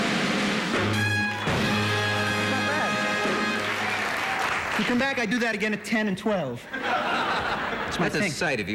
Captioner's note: applause